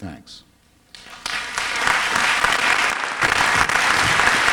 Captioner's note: applause